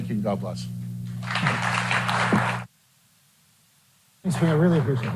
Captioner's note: applause